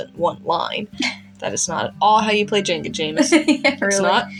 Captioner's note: laughing; chuckle